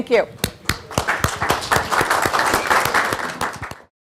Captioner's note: applause